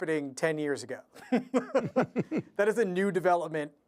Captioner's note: laughter